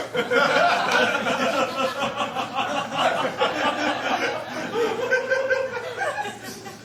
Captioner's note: laughter